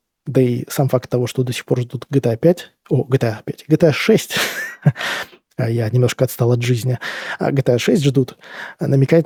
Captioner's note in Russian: смех